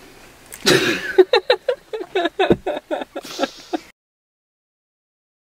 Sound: laughs

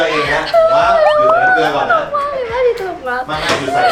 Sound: laughing so much she’s wiped out

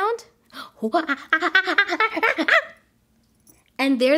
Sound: gorilla noises

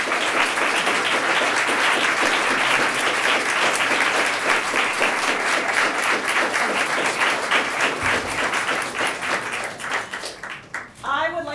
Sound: cheering/applause

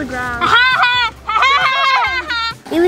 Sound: laughing

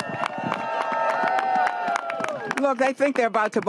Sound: applause

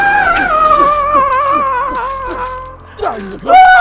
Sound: screaming; knife slicing

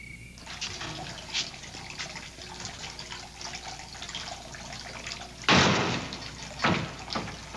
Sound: water gurgling; door thudding

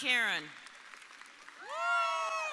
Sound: audience applauding

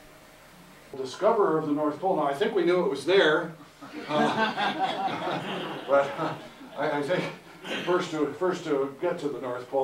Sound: audience Laughter

